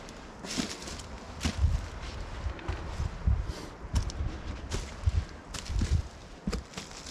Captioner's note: wind